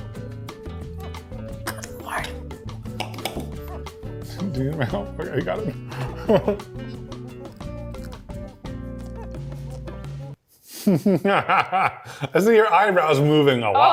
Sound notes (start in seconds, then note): 1.3 whispers good lord; 6.1 upbeat music; 10.8 laughs